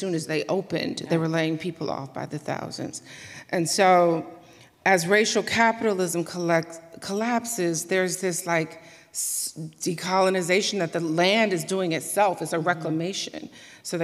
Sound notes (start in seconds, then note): none